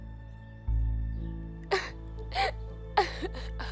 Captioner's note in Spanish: llorando